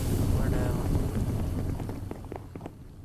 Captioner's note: the roaring boiler, again